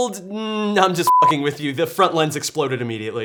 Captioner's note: beep